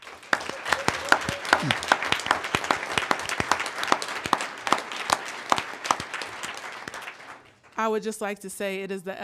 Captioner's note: applause